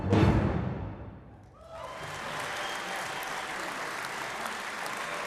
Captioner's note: audience clapping